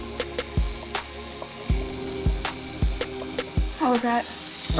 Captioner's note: chill hip-hop music; tattoo gun running